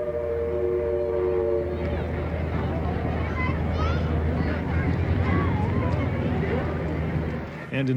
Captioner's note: train whistling; crowds chattering